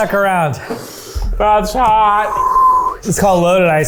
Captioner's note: whistles